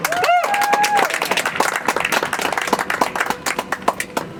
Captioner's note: audience applauds; soft music